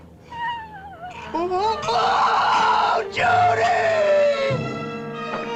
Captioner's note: screaming